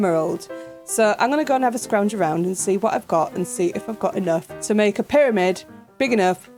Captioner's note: none